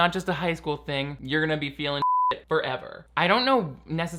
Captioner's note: beep